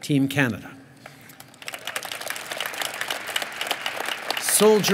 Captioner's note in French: Applaudissements